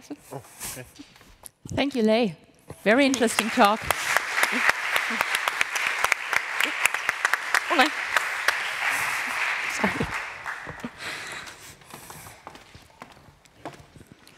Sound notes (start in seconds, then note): 8.9 applause